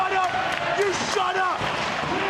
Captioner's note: audience cheering